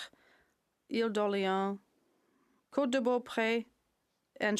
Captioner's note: speaking French